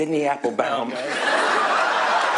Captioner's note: laughter